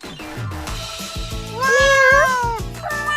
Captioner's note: meow